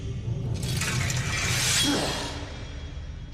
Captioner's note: sword scraping; groans